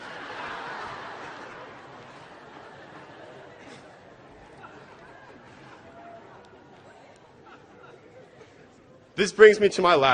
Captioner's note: laughter